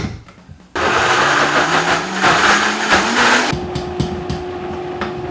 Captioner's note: blender whirring